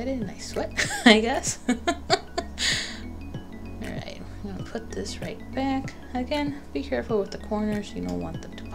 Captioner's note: nervous laughter